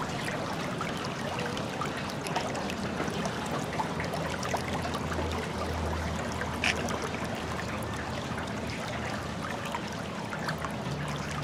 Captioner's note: running water